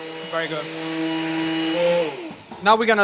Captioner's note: blender whirring